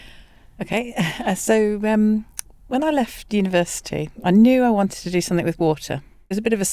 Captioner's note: chuckles